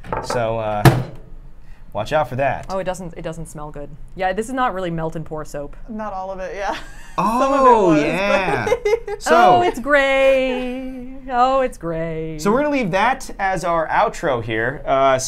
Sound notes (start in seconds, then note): 6.6 laughs